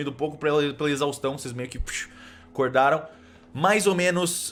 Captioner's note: psh‌